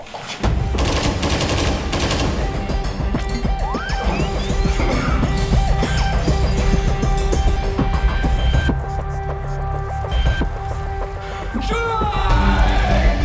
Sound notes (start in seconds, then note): 0.5 pulse rifle bursts; 2.7 digital swipe; 6.5 bassy hum; 9.0 hum intensifies